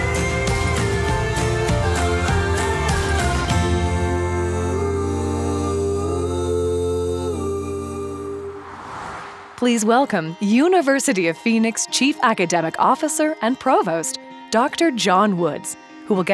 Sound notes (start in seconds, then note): 8.3 air whooshes